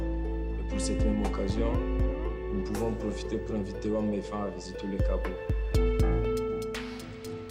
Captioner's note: French